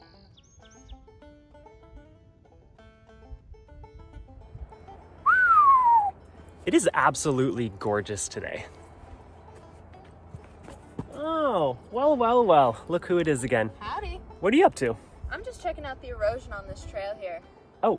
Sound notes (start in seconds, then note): 0.5 whistles